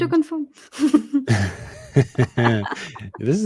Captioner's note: chuckling